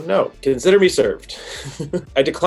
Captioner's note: laughs